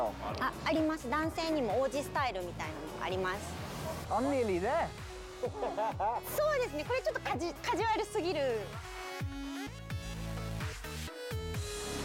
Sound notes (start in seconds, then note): 0.1 speaking Japanese; 6.1 speaking Japanese